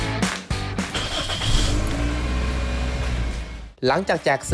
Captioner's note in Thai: เสียงสตาร์ทรถ